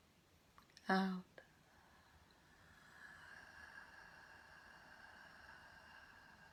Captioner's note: exhaling